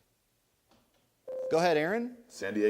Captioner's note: ding